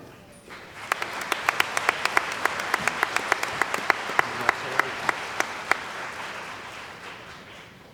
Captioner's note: applause